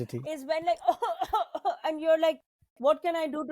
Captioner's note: Zarna coughs